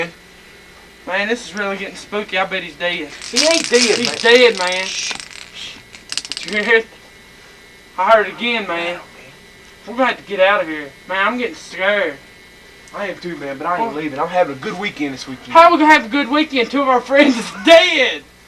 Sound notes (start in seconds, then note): 5.9 rattle sounds